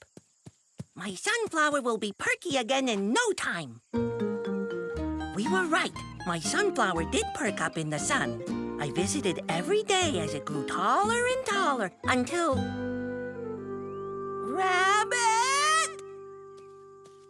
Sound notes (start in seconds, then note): none